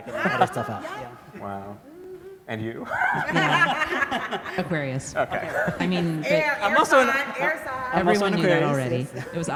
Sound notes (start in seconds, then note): 2.8 laughs; 2.9 everybody laughs